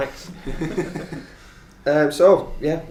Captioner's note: laughter